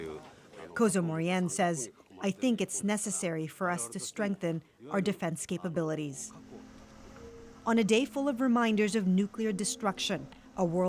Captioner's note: speaking alternate language